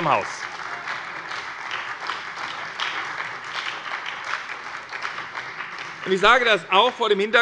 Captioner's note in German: Beifall bei der SPD